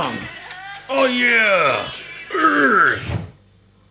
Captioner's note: groans